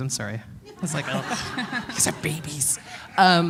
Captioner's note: laughter